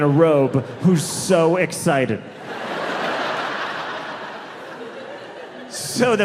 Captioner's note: audience laughing